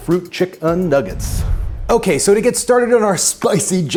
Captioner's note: football whooshes